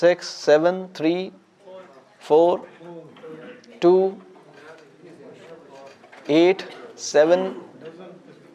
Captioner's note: voices from the audience